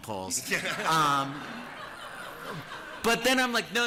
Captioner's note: laughter